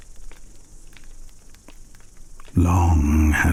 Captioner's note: fire crackling and night insects buzzing